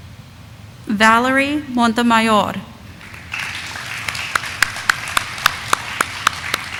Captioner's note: audience applauding